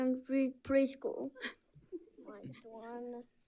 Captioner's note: coordinator laughing